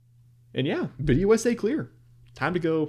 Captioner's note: desk bump